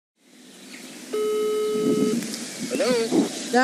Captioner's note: ringtone